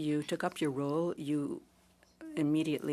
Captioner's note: speaking French